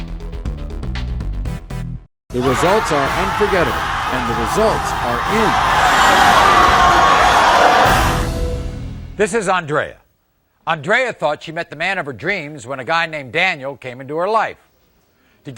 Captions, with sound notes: The results are unforgettable. And the results are in. (audience cheering) (audience yelling) - This is Andrea. Andrea thought she met the man of her dreams when a guy named Daniel came into her life.